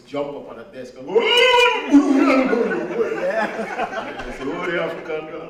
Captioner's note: hollering